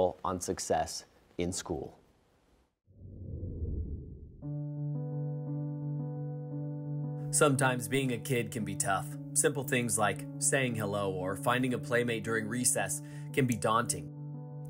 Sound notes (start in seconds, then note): 3.0 screen whooshing; 3.1 gentle music